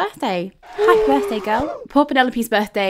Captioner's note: cheers